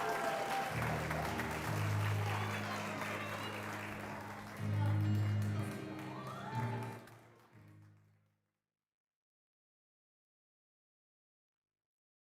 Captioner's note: applause